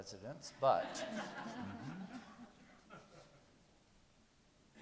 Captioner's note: people laughing